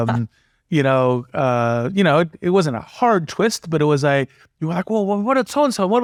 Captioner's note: laugh